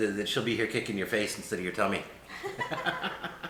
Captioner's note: laughing